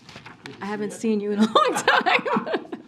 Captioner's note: laughter